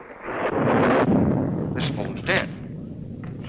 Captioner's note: thunder rumbling